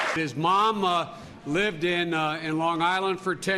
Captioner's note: applause